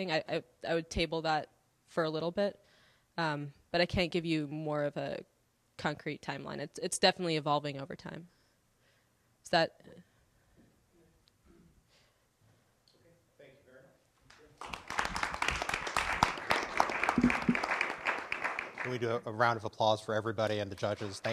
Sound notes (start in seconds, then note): 14.2 applause